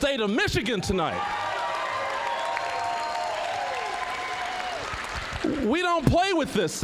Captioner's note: applause, cheering